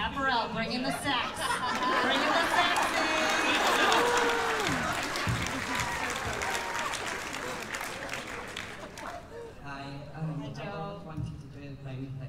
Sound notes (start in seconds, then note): 1.0 laughter; 4.7 applause